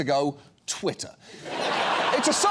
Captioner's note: audience laughs